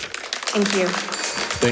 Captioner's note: crowd applauding